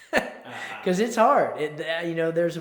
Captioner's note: chuckles